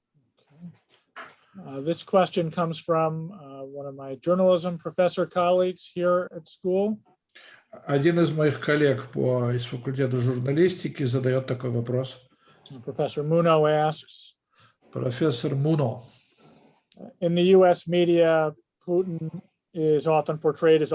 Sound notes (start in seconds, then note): 8.2 translator speaking Russian language; 15.2 translator speaking Russian language